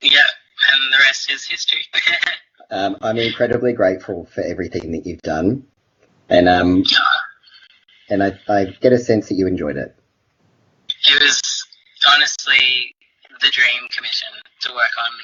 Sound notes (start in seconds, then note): none